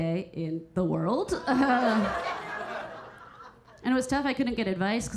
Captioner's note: audience laughing; Keira chuckling